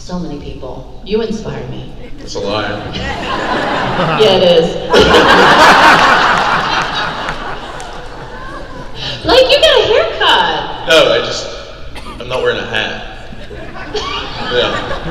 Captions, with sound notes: - So many people. You inspire me. - That's a lie. - Yeah, it is. (crowd laugh) Blake, you got a haircut! - Oh, I just, I'm not wearing a hat.